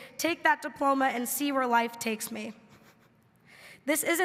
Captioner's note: laughing